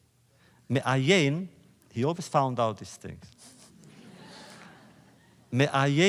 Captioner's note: laughter